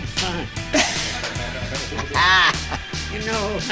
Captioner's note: laughing